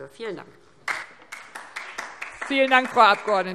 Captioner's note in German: Beifall DIE LINKE